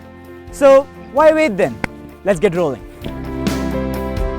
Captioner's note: clap